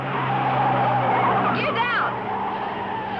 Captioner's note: tires screeching